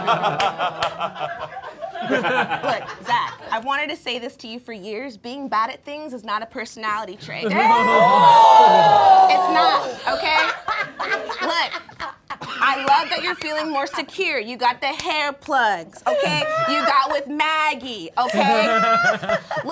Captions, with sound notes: (all laughing) Look, Zach, I've wanted to say this to you for years. Being bad at things is not a personality trait. (all exclaiming) It's not, okay? Look, I love that you're feeling more secure. You got the hair plugs, okay, you got with Maggie, okay?